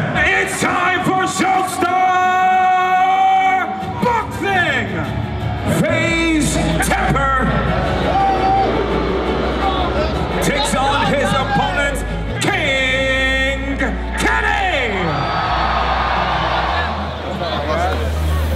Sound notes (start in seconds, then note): 7.8 crowd booing; 15.0 crowd cheers